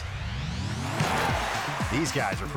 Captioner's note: ascending music; audience cheering